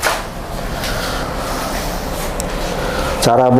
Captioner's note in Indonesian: menghela nafas